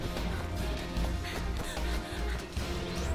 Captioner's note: panting